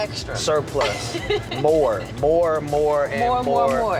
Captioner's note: laugh